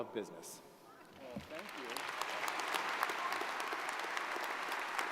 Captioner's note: audience applauds